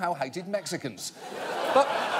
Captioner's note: audience laughing